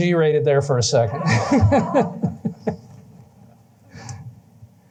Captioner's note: laughter